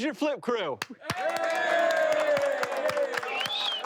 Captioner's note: cheering